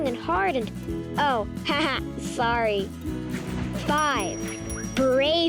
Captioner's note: laughs